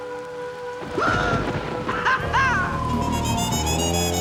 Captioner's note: cheering; instrumental music playing